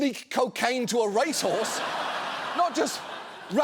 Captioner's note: audience laughs